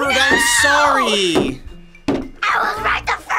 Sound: taps table

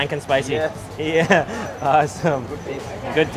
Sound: laughs

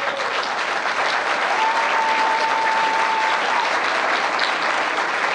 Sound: applause and cheering

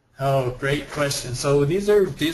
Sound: voiceover

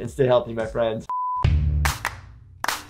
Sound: graphic beeps; upbeat cheerful music

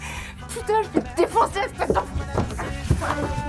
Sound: cursing in French

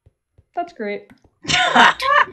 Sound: normal voice

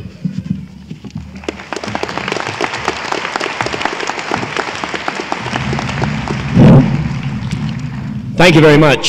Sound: applause

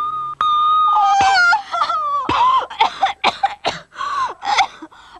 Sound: coughing

